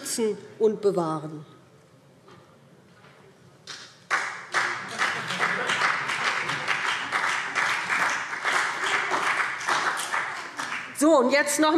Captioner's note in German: Beifall BÜNDNIS 90/DIE GRÜNEN und CDU